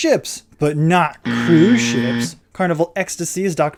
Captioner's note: buzzer sound